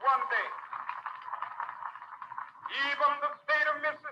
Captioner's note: audience applauding